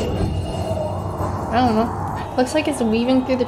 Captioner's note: wind whooshing